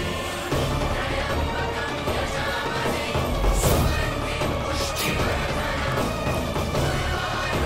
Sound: chant

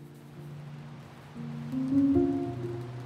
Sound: rain pouring

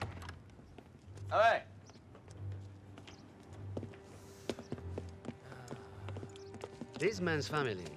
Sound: shouts in russian

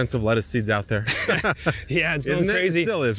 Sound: both laugh

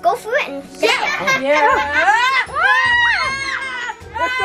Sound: all yelling

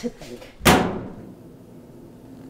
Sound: washing Machine slams closed

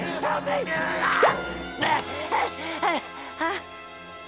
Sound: panting

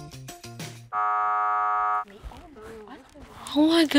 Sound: buzzer sounds

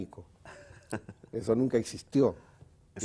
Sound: ríe

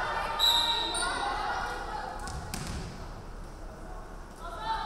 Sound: referee whistling

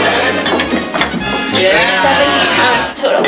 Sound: cheers

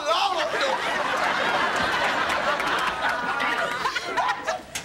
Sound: studio audience laughing

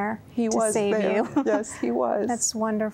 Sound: giggle

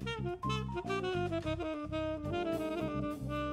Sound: none

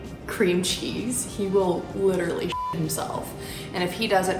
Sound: beep

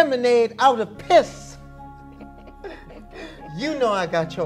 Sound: laughs

